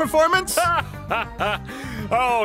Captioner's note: laughs